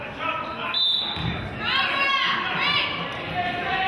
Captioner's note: whistle blows